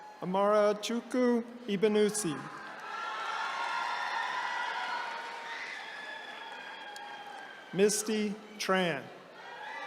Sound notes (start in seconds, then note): 1.9 attendees cheering